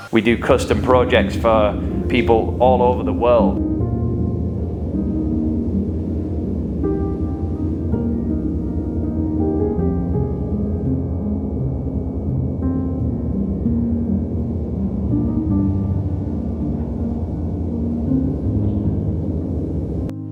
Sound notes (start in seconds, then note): 4.4 light winds whirling; 11.0 gentle piano music